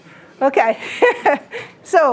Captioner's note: laughs